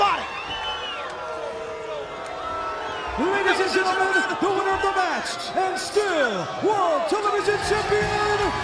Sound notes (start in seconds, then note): 0.2 crowd cheering; 2.5 crowd chatter